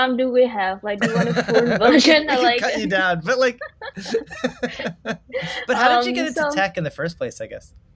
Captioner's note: laughs